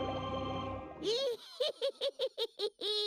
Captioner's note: cackling